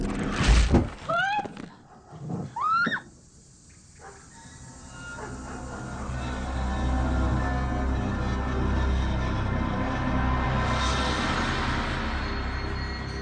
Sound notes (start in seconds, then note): 0.8 screams; 1.7 suspenseful music plays